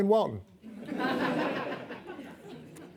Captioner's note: audience laughing